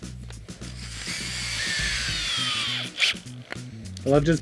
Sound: drill whirs

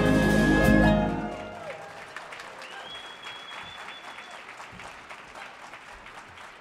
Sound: audience cheers and applauds

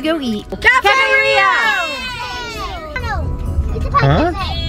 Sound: kids yelling

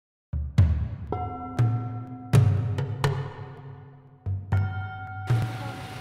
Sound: bells

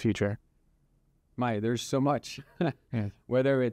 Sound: laughs

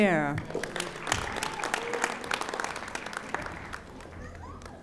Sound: audience applauding

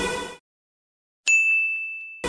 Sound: ding

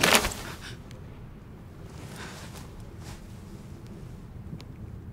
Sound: gasps

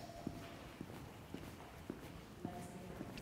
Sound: footfalls thud softly

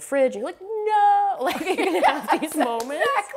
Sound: both laughing

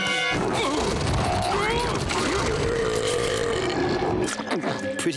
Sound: groaning

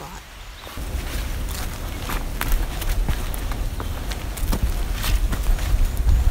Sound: sounds of the forest -- birds and hiking footsteps

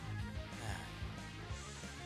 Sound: sigh

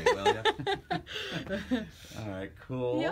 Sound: laughs

